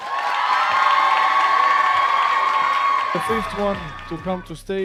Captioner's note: audience cheering